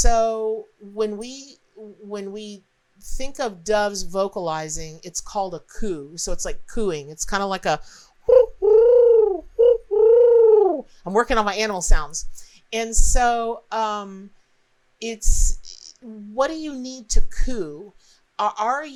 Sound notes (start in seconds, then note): 9.6 bird sound